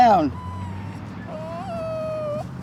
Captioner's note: dog whimpers